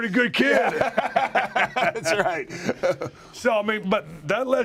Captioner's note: laugh